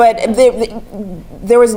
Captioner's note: laugh